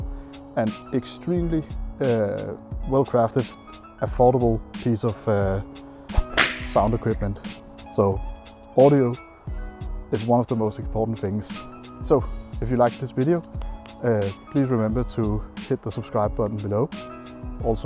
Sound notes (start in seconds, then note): 6.1 whip cracking